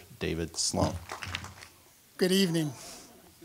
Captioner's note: applause